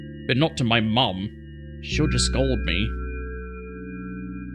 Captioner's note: none